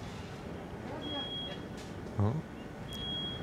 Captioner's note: fire alarm beeping